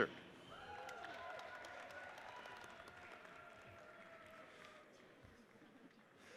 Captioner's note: audience cheers and applauds